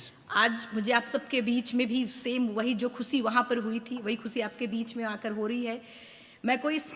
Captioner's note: speaks in foreign language